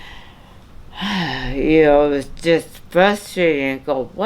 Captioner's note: sighs